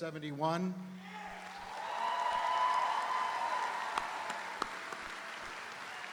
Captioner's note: audience cheering; audience applauding